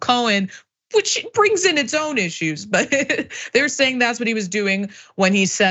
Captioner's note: laugh